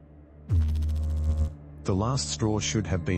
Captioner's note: electrical noise